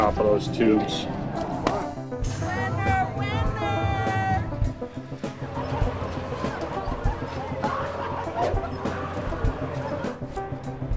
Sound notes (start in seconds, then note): 1.7 balloon pops; 4.4 light upbeat music; 5.0 visitors laughing